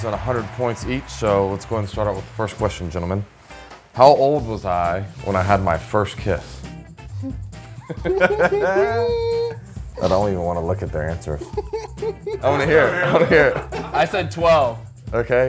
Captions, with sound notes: at a hundred points each, so let's go and start off with the first question, gentlemen. How old was I when I had my first kiss? (men chuckling) (men laughing) I don't even want to look at their answers. (man laughing) I want to hear it. I want to hear it! - I said twelve.